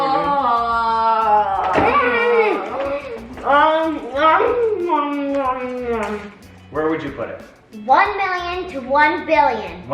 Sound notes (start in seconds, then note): 0.0 moans; 2.1 groans